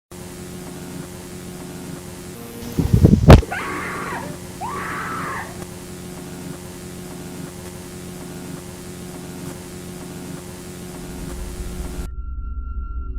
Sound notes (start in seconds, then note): 3.3 screaming